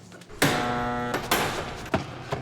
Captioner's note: buzzer